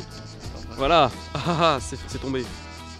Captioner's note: laughing